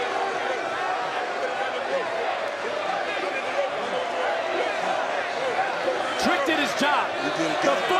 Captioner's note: crowd boos